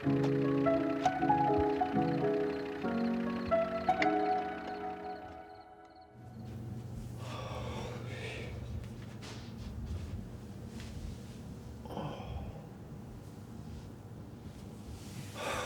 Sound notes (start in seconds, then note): 7.2 Ulysses sighs